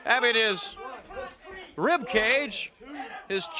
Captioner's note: crowd chatter